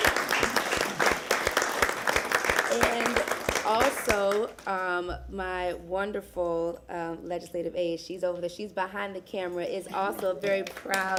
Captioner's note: applause